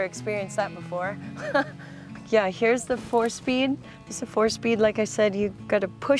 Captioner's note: chuckles; gentle music continues